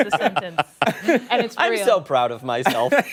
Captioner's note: laughter